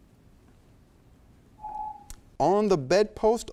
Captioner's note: timer beeps